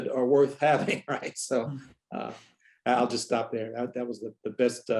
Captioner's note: laughter